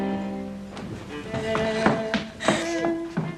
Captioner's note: crying